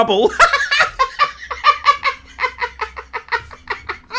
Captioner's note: laughing